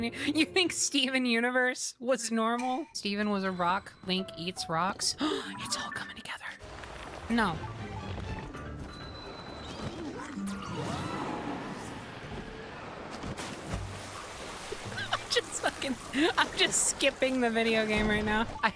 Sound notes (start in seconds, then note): 5.2 gasp; 14.9 laughing